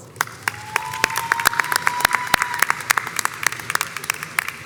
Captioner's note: crowd applauds and cheers